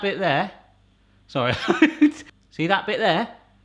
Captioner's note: laughs